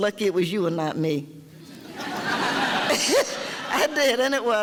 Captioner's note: audience laughter